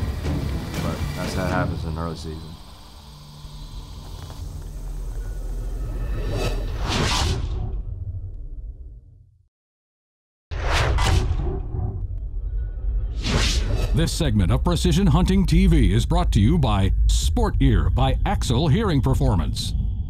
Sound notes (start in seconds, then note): 0.2 dramatic music; 4.6 whooshing sound